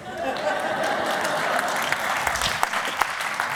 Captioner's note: laughter